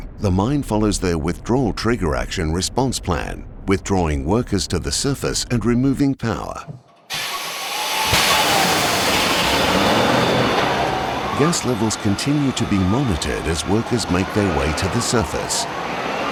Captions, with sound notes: the mine follows their withdrawal trigger action response plan, withdrawing workers to the surface and removing power. (Vehicle starting up, and driving) Gas levels continue to be monitored as workers make their way to the surface.